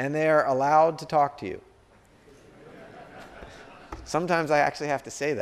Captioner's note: laughter